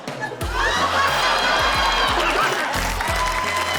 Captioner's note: laughter, applause